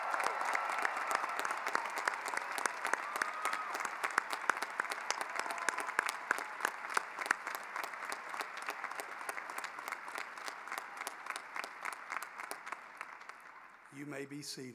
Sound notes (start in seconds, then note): 2.5 cheering and applause